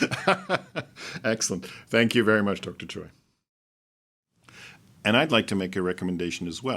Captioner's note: laughing